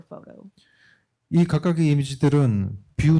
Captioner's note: speaking korean